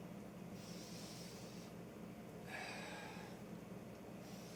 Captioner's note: huffing